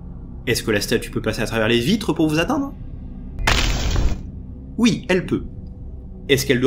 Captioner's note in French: crac